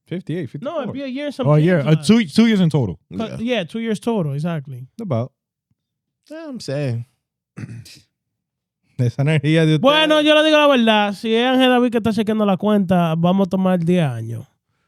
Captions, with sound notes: 58, 54. No, it'll be a year and some change. A year, two years in total. Yeah, two years total, exactly. About? Yeah, I'm saying. (Speaking Foreign Language)